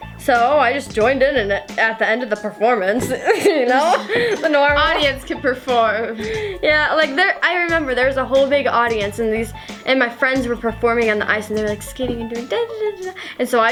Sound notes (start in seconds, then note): 3.0 laughs